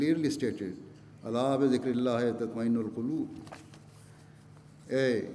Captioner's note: Arabic